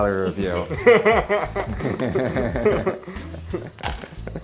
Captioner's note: laughing